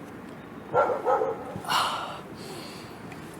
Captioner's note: dog barks